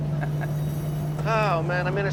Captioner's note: laughs